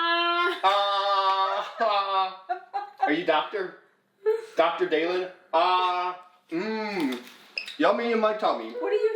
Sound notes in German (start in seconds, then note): 2.9 Mama lacht